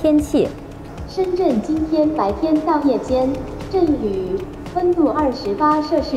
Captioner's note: speaking in Chinese